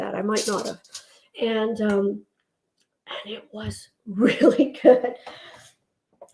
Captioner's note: laughs